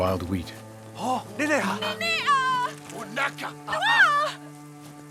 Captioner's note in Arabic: الصوت المنطوق الأجنبي